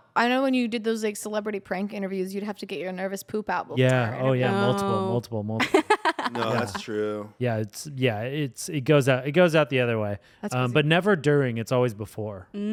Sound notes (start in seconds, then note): 5.6 laughs